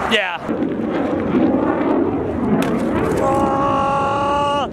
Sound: plane flying overhead; shouts

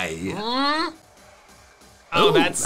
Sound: groans

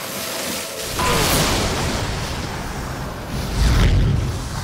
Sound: wincing; explosion

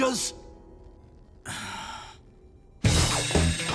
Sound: sighing

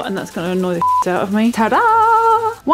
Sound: beep

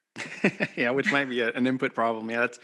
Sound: laughing

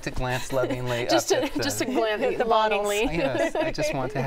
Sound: laughter

